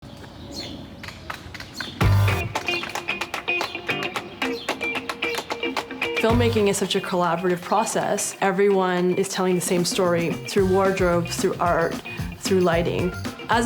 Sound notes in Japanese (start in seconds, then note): 0.0 鳥のさえずり; 2.1 upbeat music